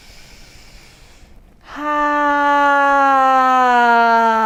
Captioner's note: inhaling and sighing